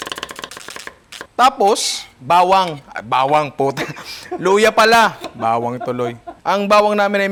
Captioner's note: laughs